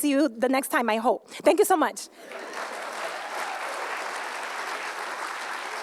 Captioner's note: applause